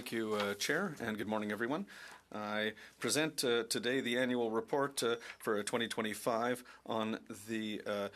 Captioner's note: speaking French